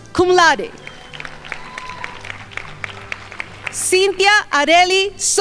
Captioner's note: crowd applauding